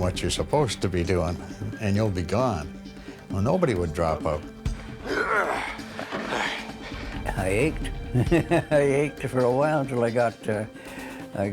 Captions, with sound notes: what you're supposed to be doing, and you'll be gone. Nobody would drop out. (grunts) (exhales loudly) - I ached. (laughs) I ached for a while 'til I got,